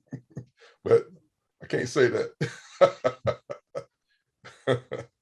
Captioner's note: laughs; laughs